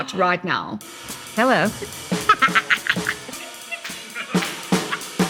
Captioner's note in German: lacht